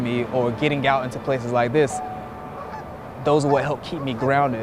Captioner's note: birds chirping